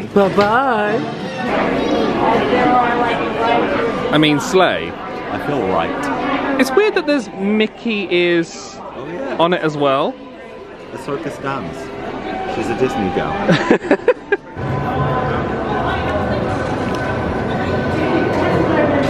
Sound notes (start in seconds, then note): 13.4 laughing; 15.8 guests chattering